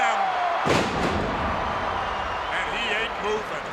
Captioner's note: crowd roaring; ground slamming